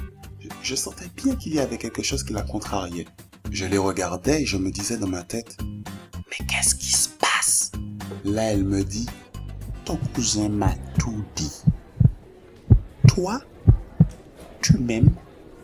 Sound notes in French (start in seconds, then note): 7.3 chuchotement; 11.4 Battements du cœur